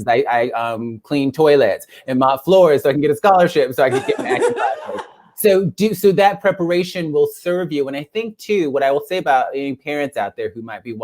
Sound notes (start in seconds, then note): 3.9 laugh